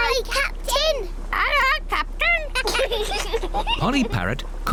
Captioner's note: children giggle